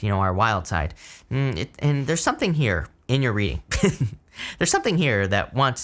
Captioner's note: chuckles